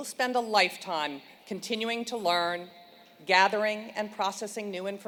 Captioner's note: none